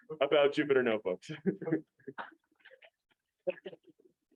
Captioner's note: chuckling